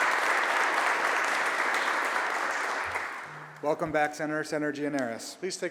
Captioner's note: applause